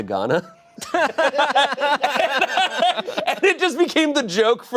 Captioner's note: everyone laughs